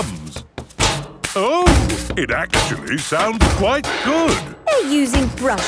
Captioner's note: rhythmic clanging